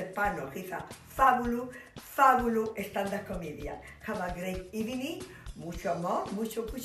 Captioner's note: speaking spanish